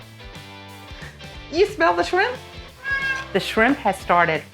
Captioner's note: meow